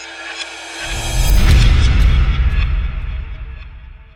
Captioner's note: wind whooshing